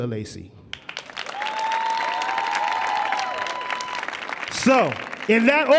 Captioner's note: audience cheering